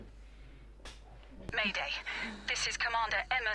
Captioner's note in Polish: Oddycha